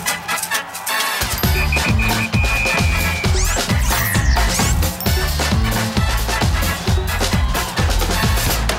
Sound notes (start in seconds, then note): 1.4 whistles